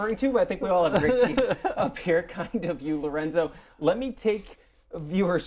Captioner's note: laughter